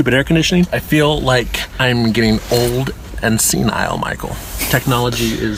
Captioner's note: snickers